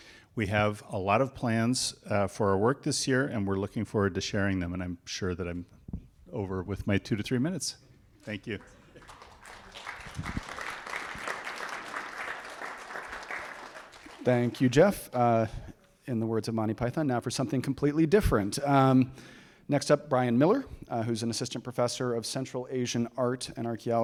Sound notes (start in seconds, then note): 8.2 applause